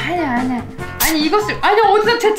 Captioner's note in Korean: 에취!